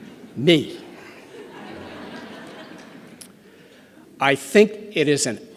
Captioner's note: laughter